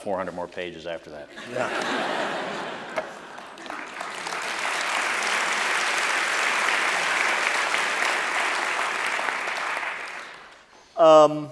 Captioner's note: laughter; applause